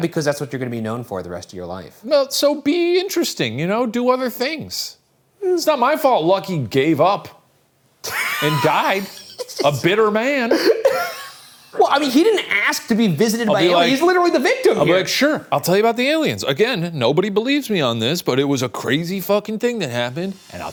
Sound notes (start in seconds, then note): 8.0 laughing